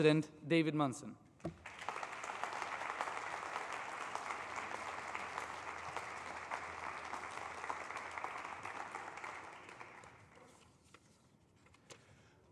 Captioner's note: applause